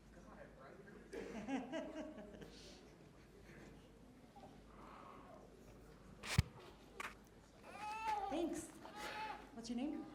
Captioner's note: laughs